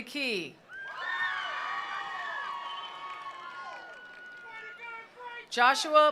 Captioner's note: attendees cheering; attendees applauding